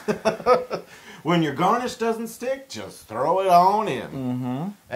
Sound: laugh

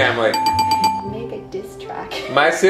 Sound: bell dinging

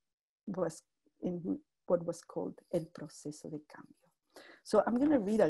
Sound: spanish speech

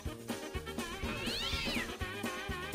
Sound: sound of a cat dying horribly

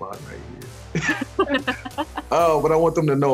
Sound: laughing

